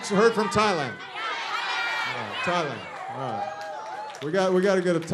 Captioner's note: shouting